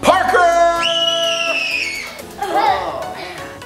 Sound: screaming

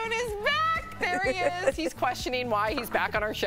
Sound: laughter

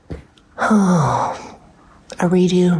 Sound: sighs

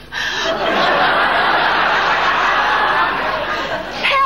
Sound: audience laughing

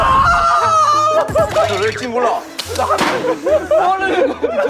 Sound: Semua tertawa terbahak-bahak

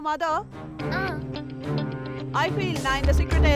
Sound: mouthing

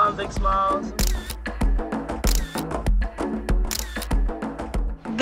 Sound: camera clicks

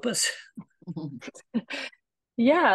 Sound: laughter

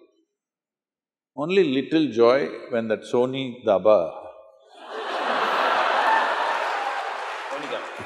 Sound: laughter/Applause

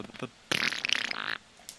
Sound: fart noise

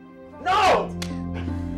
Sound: slap

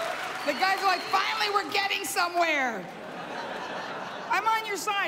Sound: laughter

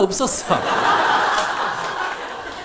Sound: audience laughs

